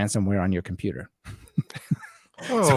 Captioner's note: laughter